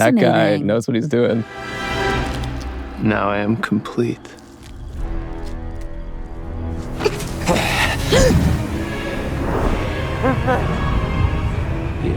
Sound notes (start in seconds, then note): 5.5 dramatic music; 6.9 Isaac growls; 7.4 Wednesday gasps; 8.8 dramatic music